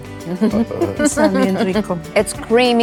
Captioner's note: speaks Spanish